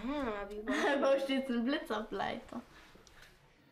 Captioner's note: children's voices